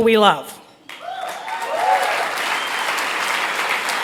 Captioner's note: applause